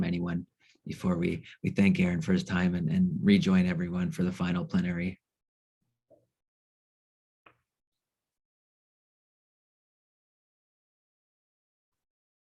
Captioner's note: pause